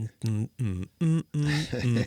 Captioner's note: humming